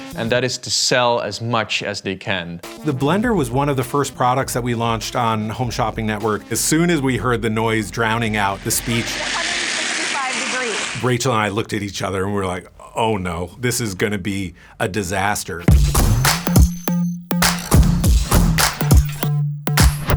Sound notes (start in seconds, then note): 9.1 blender whirring; 15.6 upbeat music